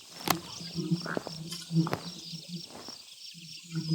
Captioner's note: bees buzzing